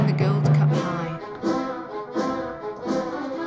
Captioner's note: whistles the melody